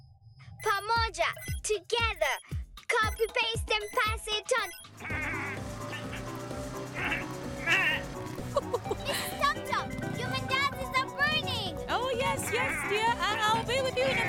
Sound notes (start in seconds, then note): 6.8 laughing; 6.9 bleating